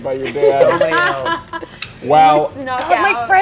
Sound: laughing

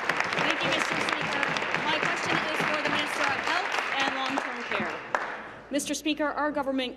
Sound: applause

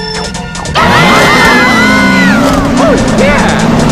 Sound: all screaming

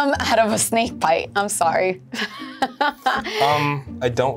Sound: laughs

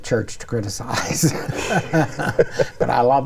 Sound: both laughing

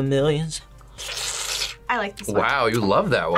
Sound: slurps

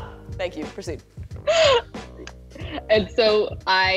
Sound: laughs

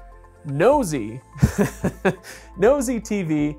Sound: laughs

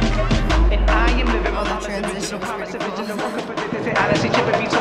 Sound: chuckles

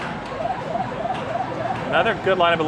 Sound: game being played

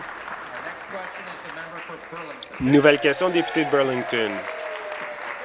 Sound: applause

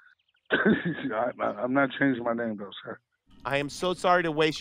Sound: laughing

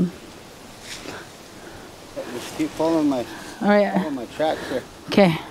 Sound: wind

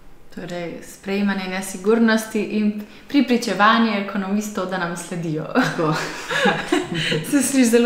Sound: laugh

